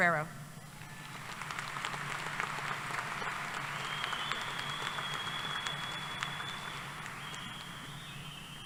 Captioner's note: applause